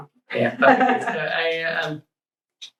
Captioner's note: laughs